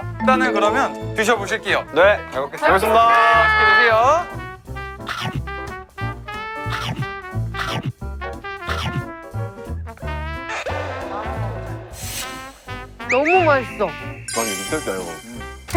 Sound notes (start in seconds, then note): 5.0 Munch; 6.7 Munch